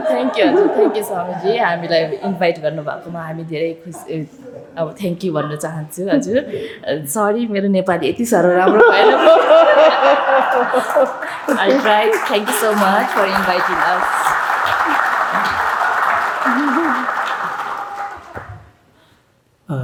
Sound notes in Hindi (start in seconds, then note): 6.4 तालियाँ